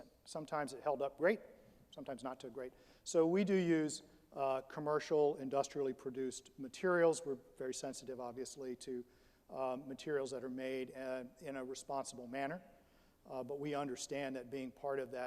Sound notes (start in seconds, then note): none